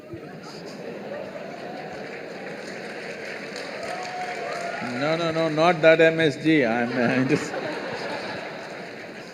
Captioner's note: laughter